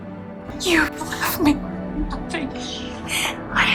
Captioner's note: voiceover